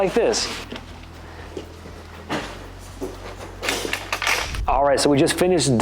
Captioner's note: dust mop swishing quietly